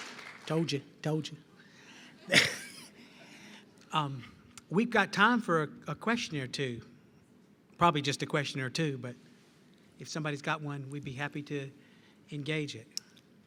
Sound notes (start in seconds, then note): 2.3 laughs